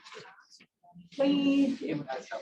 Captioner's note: indistinct chatter